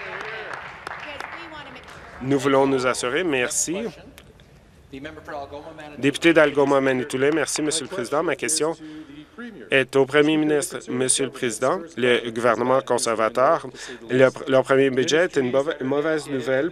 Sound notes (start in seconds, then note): 3.0 applause